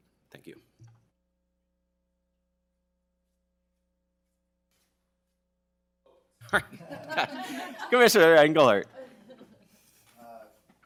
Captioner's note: laughter